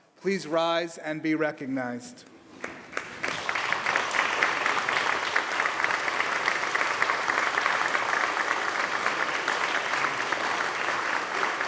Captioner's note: applause